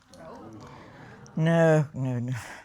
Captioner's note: audience exclaiming